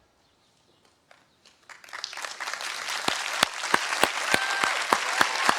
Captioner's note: applause